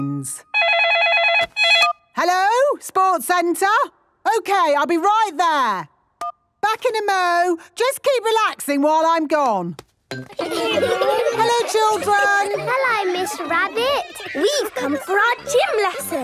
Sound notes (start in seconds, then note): 0.5 phone ringing; 10.4 laughter